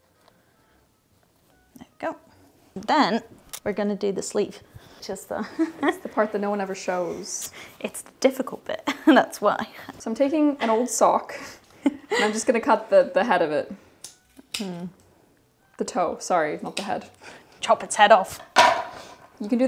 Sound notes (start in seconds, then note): 5.1 laughs; 11.7 laughing